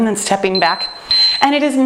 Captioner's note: timer beeps